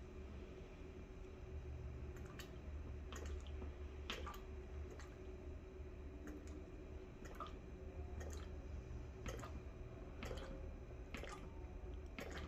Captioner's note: pouring ink sound